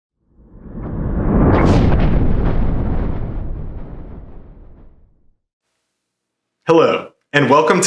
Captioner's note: thunder rumbling